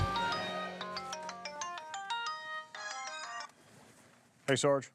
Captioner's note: cell phone rings